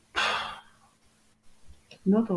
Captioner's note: sighing